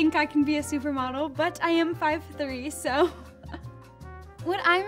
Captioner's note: laughing